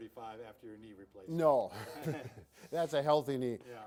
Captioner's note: both chuckle